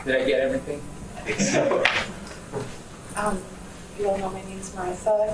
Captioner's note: audience laughs